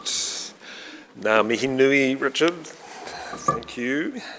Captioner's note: speaking in foreign language